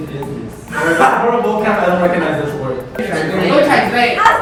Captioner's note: scoffs